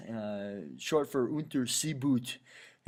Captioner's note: German